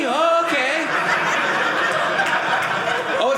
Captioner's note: audience laughing